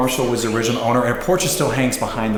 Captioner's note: creepy whispering